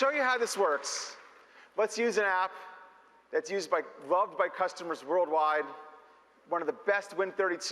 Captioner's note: applause